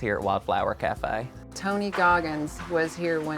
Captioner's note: object crashing